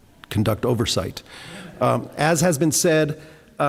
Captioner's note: laughter